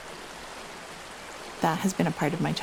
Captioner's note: rushing water